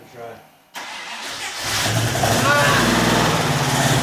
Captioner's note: successful engine startup